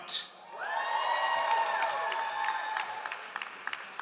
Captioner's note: all applauding